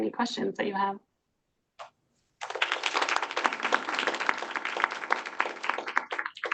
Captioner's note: applause